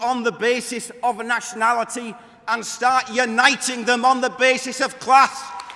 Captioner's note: applause